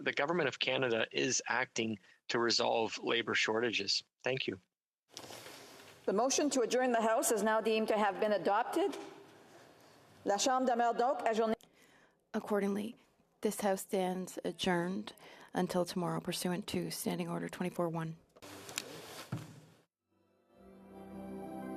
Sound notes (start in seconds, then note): 14.8 speaking in French